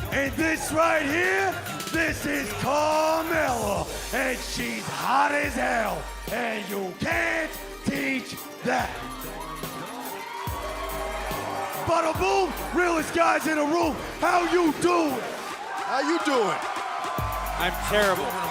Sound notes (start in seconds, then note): 12.3 cheers & applause; 18.3 cheers & applause